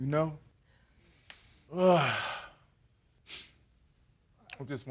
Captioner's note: sighs